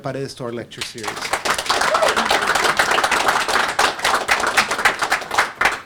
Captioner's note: audience applauding